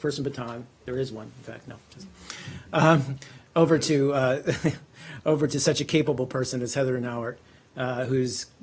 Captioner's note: laughter